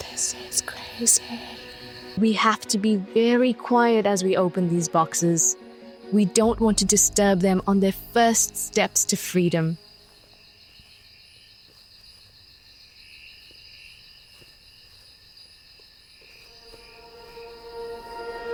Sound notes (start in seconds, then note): 11.0 insects humming